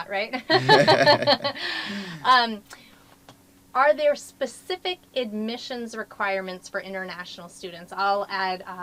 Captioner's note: laugh